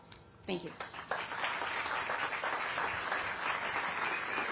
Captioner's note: applause